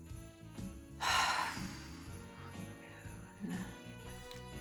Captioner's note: sighs